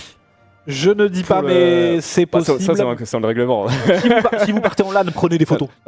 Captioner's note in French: rires